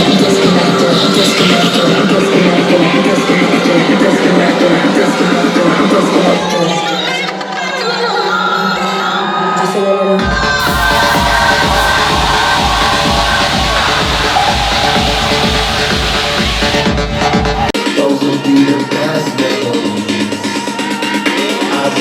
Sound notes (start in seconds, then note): 10.2 crowd cheering; 10.2 beat drops; 17.7 hype electronic dance music